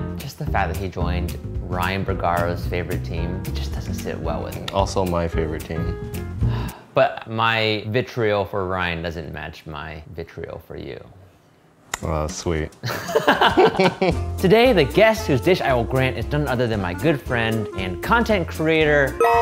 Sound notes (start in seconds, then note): 6.4 sighing; 12.8 both laughing